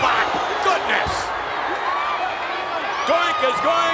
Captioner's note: audience cheers